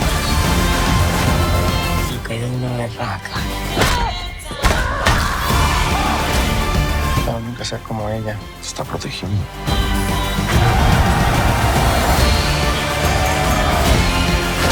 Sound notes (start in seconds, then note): 3.3 grunting; 13.0 all cheer